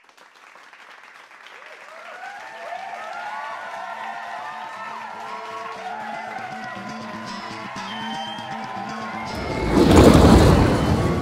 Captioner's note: applause